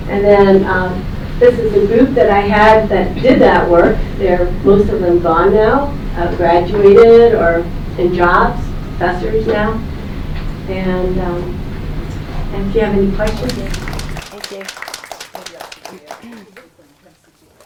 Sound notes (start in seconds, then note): 13.2 applause